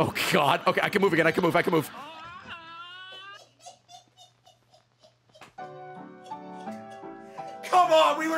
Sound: cackling

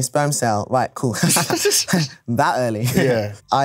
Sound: chuckles

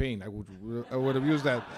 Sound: laughter

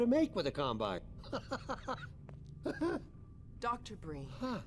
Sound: laughter

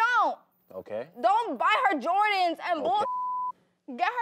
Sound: beep

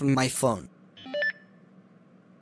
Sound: phone beeps

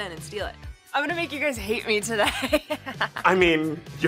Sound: laughs

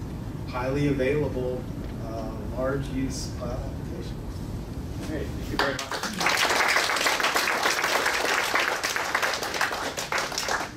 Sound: clapping

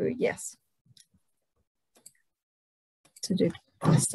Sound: mouse clicks

